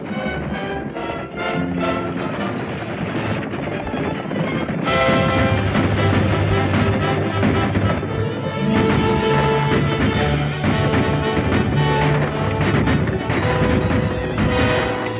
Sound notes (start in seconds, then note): 0.1 dramatic orchestral music continues; 6.7 guns firing